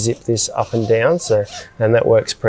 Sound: zip rasping

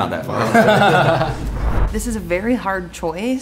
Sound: group laughing

